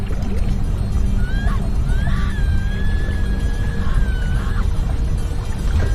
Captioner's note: uptempo music; muffled screams